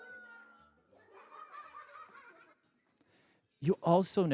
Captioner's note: laughter